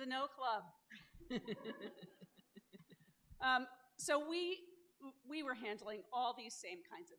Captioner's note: laughter